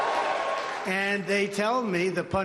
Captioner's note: cheering and applause